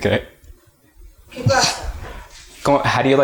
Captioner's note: speaking Spanish